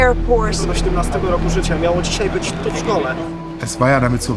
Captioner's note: speaks different language